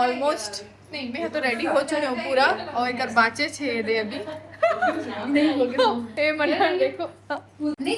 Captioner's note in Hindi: हंसी